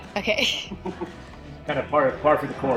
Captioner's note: laughing